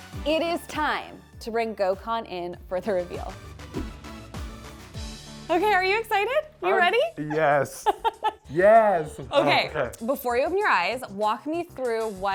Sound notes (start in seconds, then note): 3.7 air whooshing